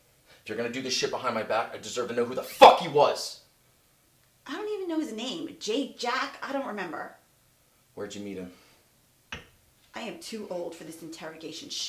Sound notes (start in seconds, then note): none